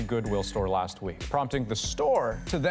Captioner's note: none